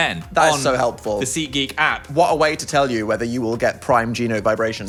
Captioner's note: none